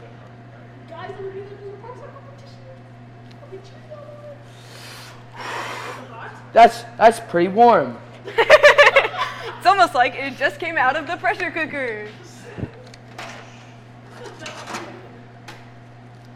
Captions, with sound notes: - Do you want help? - You guys are gonna do the ProStart Competition? I'll be cheering all the way. - That's pretty warm. (students laughing) - It's almost like it just came out of the pressure cooker.